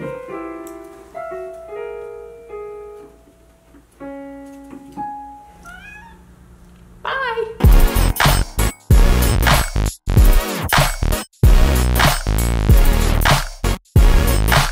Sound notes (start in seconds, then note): 0.0 piano keys chiming; 5.6 meowing; 7.6 upbeat techno music